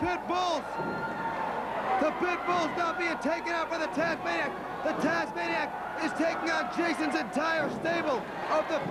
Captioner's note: crowd cheering